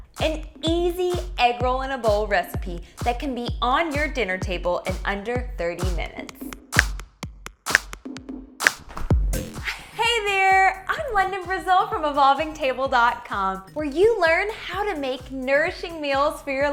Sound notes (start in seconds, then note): 6.8 electronic drum beats; 7.6 fingers snapping